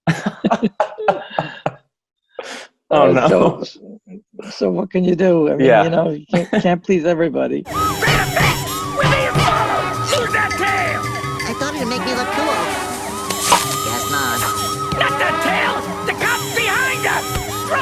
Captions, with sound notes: (laughter) Oh no. So, what can you do? You can't please everybody. (police sirens) Drive fast! We're being followed. Lose that tail! I thought it'd make me look cooler. Guess not. Not that tail. The cops behind us!